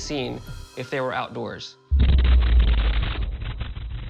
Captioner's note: loud explosion